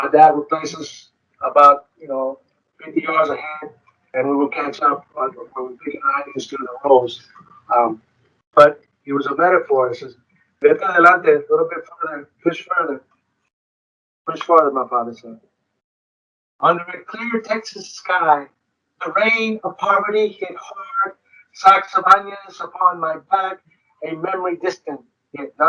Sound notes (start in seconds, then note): 6.5 speaking distorted; 10.8 speaks foreign language